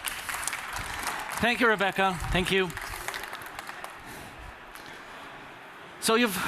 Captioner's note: applause